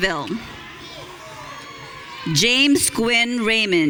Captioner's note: audience cheering